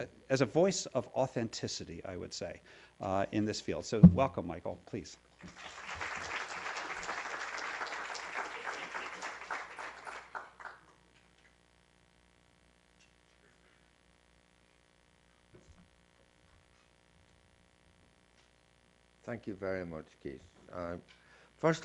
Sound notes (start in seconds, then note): 5.4 applause